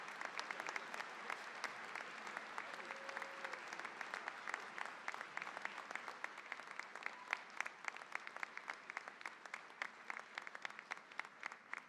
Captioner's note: applause